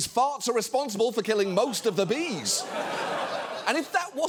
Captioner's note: studio audience laughing